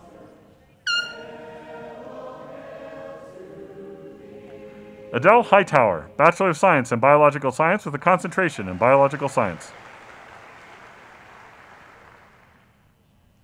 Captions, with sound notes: Adele Hightower, Bachelor of Science in Biological Science with a Concentration in Biological Science. (audience applauding)